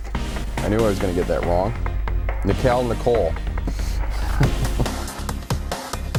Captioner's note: laughing